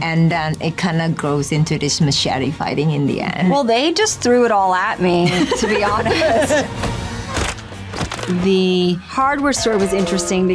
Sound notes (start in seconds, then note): 5.2 laughs; 6.9 intense music; 7.2 bones cracking